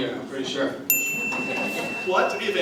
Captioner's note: ding